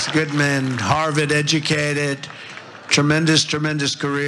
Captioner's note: applause